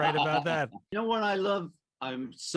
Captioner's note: laughter